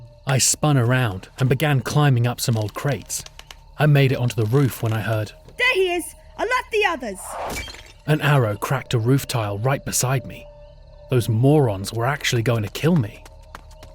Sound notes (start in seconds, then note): 7.5 SFX arrow thunk